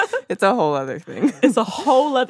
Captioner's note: laughs; chuckles